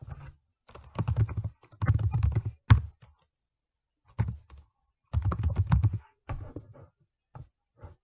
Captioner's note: typing